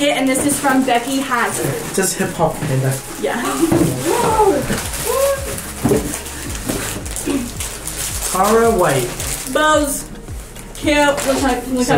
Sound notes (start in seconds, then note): 3.5 laughs